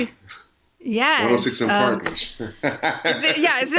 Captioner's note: laughs